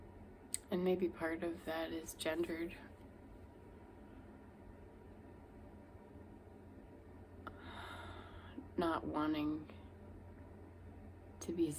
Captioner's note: sigh